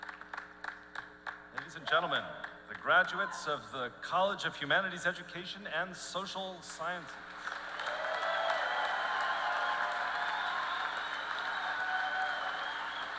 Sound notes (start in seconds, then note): 7.2 applause